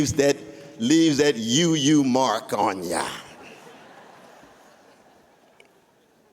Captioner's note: laughter